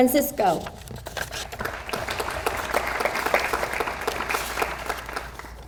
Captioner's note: audience applauds